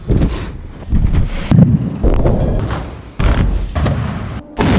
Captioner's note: explosions